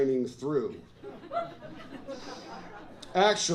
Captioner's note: laughter